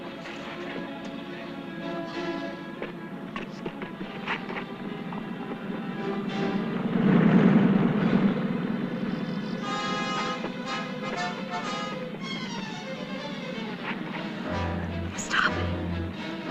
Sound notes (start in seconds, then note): 0.3 tense music; 6.9 motorcycle engines; 9.8 tense music